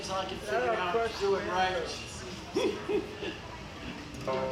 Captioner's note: chuckles